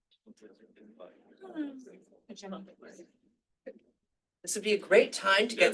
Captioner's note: people chattering